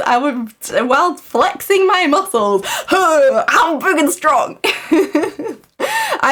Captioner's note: laughs